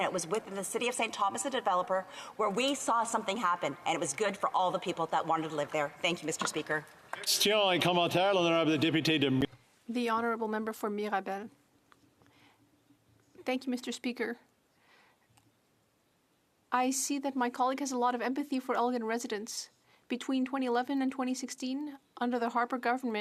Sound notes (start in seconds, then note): 16.8 speaking French